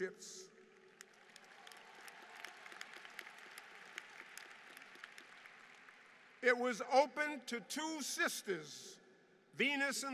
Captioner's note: applause